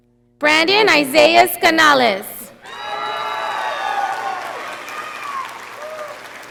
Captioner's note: audience applauding